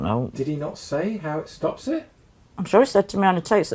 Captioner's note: voiceover